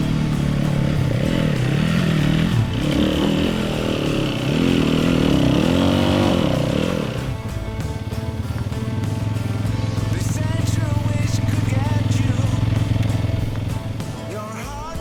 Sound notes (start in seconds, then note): 0.2 upbeat guitar music; 2.7 motorcycle engine roaring